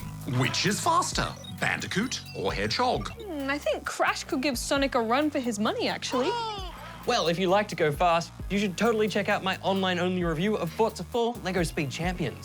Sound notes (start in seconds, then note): 6.0 chuckles